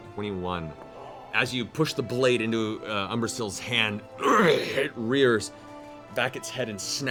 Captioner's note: angry snarl